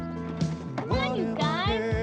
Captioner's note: ball bouncing